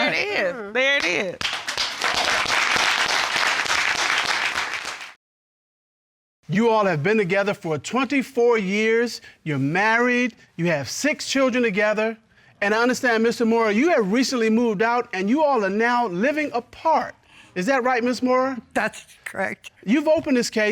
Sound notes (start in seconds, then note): 1.4 audience applauding